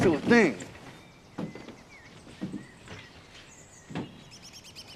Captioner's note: birds chirping